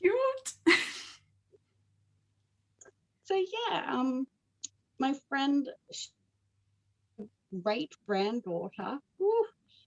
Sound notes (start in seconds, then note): 0.6 laughs; 1.2 both laugh